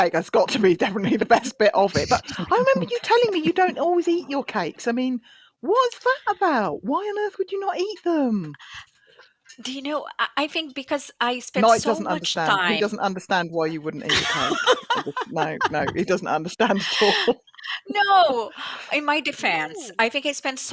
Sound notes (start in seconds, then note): 13.8 laughs